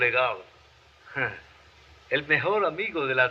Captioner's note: sigh